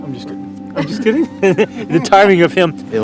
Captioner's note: laughs